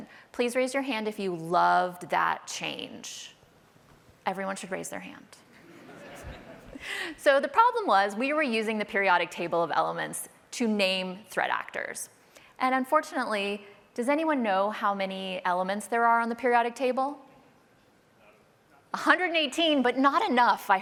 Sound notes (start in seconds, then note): 5.5 laughter